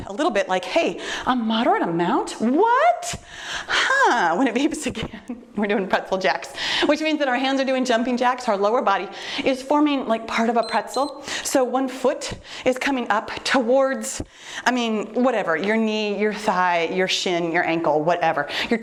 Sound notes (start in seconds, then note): 3.7 exhales sharply; 10.6 timer beeps